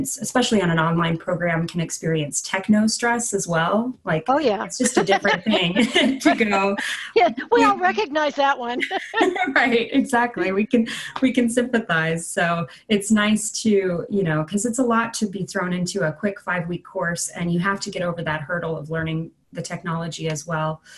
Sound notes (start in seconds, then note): 4.8 laugh; 8.6 laughter